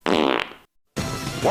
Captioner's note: fart